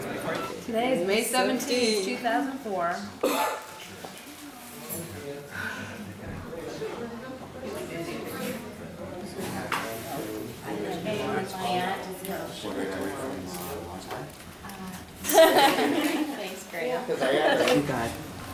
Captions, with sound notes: -Today is May 17, 2004. [background conversations] [laughter]